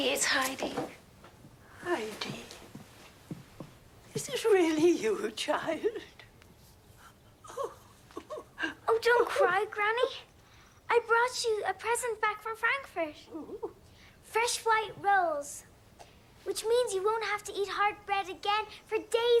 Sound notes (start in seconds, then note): 7.4 crying